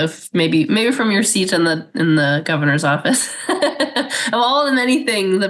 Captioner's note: laughs